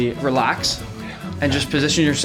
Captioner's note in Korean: 심호흡